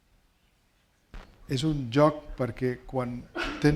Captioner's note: speaking spanish